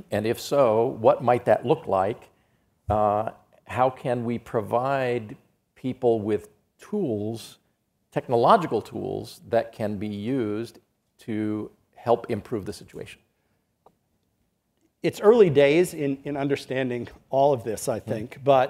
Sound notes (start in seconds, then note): none